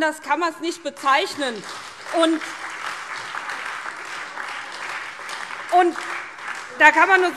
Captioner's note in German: Beifall SPD, Freie Demokraten und DIE LINKE